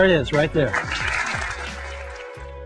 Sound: audience clapping

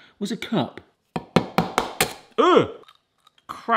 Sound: egg bashes; groans

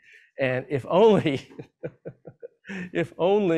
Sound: laughs

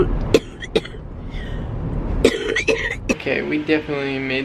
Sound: coughing

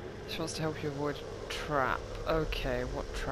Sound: none

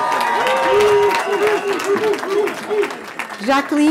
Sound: cheering

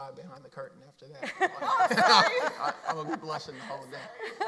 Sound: laughs

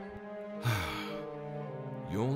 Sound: sigh

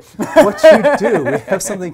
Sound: laughs

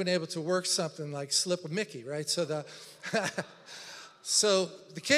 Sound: laughs

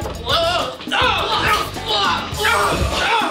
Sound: screaming

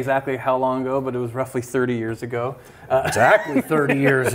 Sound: laughs

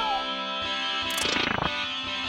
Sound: screaming; shatter noise

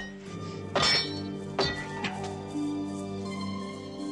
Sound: clinking

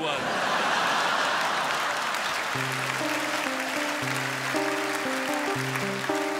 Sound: crowd laughs

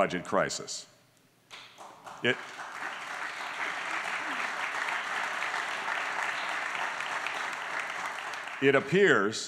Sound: applause

